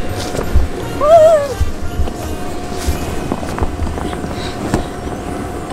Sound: assistant screaming

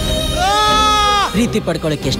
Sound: screams sharply

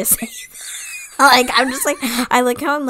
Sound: wheeze laughs

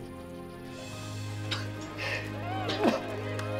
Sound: coughing

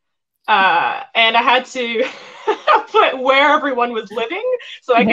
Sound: laughing

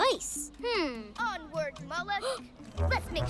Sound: gasps

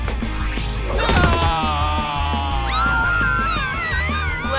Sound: screaming

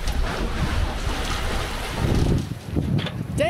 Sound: wind

